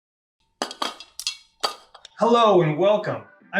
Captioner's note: paint can drops